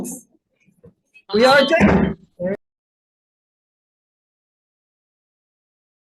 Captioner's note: gavel bangs